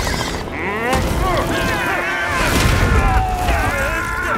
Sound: all screaming

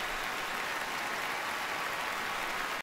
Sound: cheering continues

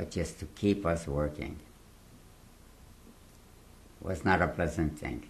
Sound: pauses for 3 seconds

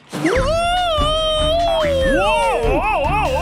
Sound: screaming

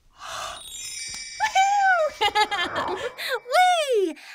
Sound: laughs

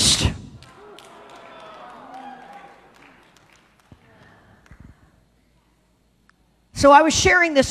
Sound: congregation cheers

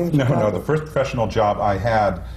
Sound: laughs

